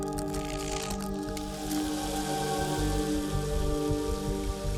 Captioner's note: water running